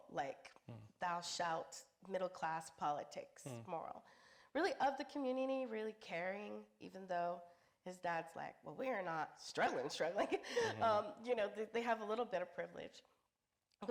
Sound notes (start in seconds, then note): 10.5 chuckles